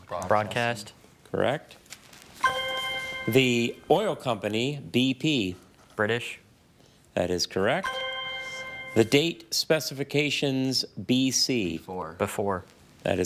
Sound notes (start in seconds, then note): 2.4 chime resonating; 7.8 chime resonating